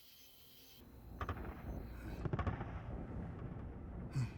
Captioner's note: crickets chirping; guns firing